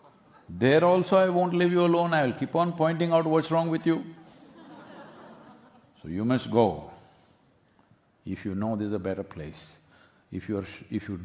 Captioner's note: laughter